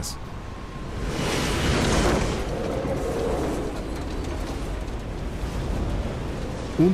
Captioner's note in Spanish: viento